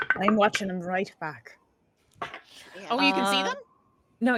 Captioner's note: dice rolls